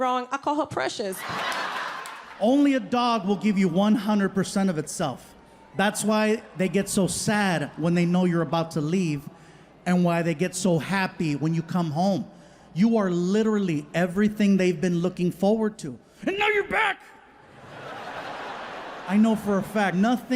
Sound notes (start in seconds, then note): 1.2 audience laughing; 17.4 audience laughing